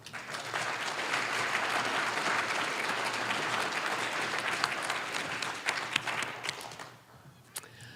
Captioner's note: applause